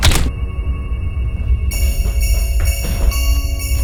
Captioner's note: hammer thwacks; dramatic music